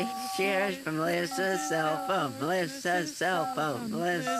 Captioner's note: chanting